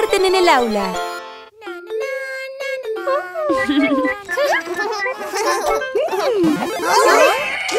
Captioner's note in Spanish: Risas